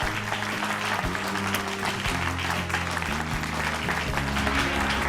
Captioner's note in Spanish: Aplausos